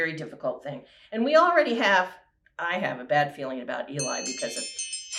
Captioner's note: timer Chimes